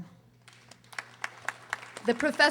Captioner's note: audience applauding